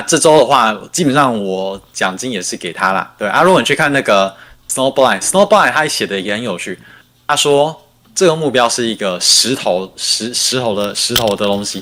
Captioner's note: non-english speech